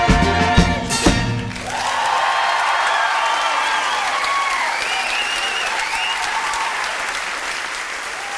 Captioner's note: audience cheers